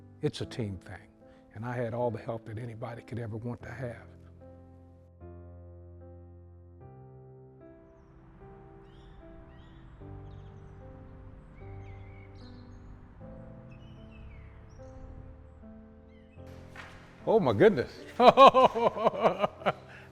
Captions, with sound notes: It's a team thing. And I had all the help that anybody could ever want to have. (gentle music) (birds chirping) Oh my goodness. (laughs)